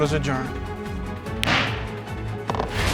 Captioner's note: bangs gavel